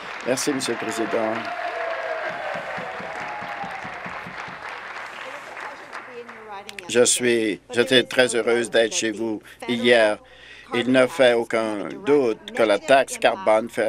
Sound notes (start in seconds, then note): 2.5 applause; 3.8 cheers